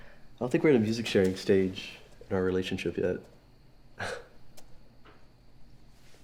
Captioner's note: laughs